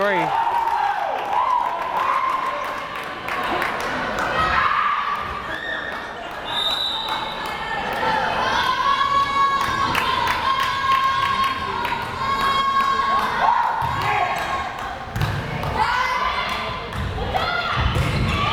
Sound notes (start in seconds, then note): 6.5 whistle blares; 8.7 crowd cheering